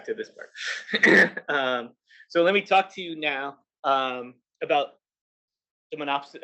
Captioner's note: cough